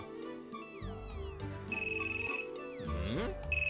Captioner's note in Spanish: suena teéfono